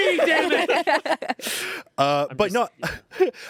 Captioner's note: everyone laughs